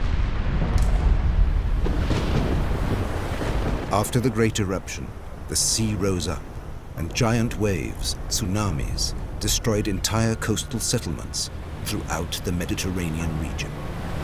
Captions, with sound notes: [thunder crashing] After the great eruption, the sea rose up and giant waves, tsunamis, destroyed entire coastal settlements throughout the Mediterranean region.